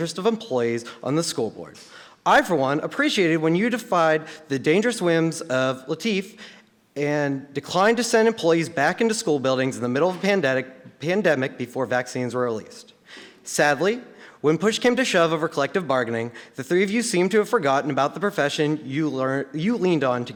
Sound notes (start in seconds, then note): none